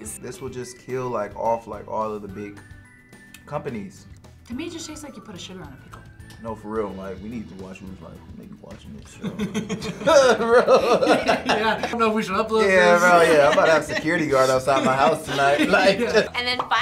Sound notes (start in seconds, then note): 9.2 laughs